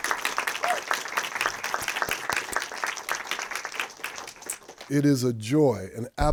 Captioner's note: audience applauding; audience member cheering